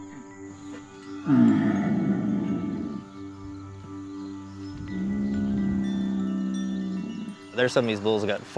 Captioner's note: bulls grunting